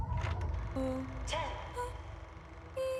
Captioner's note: robotic female voice